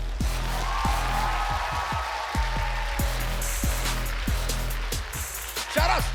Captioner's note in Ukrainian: оплески